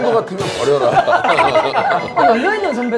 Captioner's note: laugh